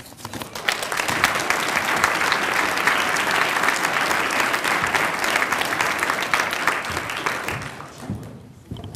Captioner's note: applause